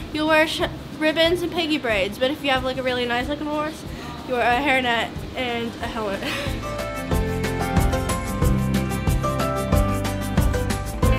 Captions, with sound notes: you'll wear ribbons and piggy braids. But if you have like a really nice like horse you wear a hairnet and a helmet, (chuckles). (bright upbeat music)